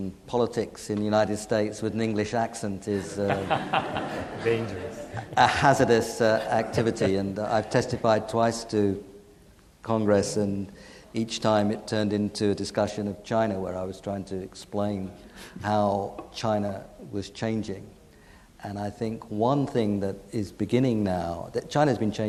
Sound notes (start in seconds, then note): 2.9 laughs; 3.0 audience laughing